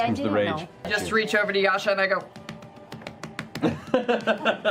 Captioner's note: slapslapslapslapslapslapslap